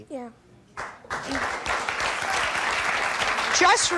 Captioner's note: audience applauding